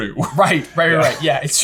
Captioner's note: laughing